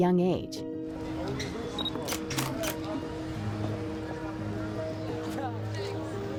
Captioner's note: people chatting, flash bulbs exploding